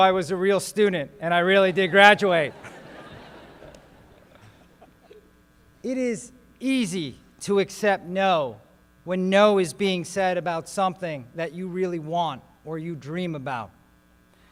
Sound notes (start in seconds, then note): 1.7 laughter